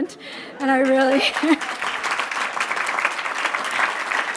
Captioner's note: applauding